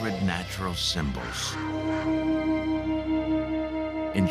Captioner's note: conch horn trumpets